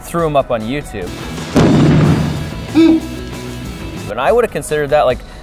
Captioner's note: explosion sound